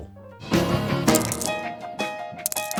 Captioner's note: marble-clacking intensifies